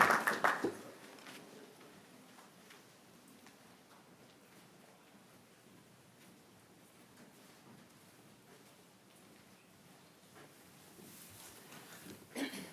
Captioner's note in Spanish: aplausos